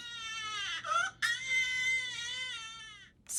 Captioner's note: baby crying